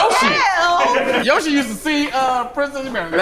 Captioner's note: group laughs